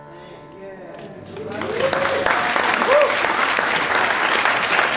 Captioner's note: applause